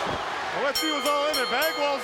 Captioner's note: bell ringing